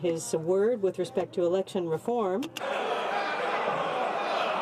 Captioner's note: some laughter